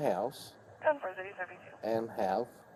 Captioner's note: radio chatter